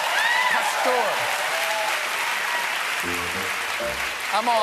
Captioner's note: applause